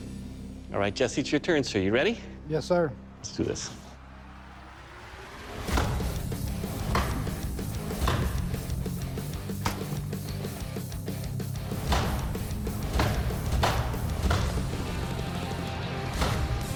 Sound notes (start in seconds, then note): 5.3 cracking